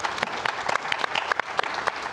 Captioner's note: applause